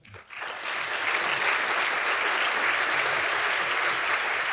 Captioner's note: audience clapping